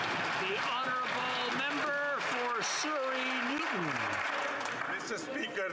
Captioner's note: applause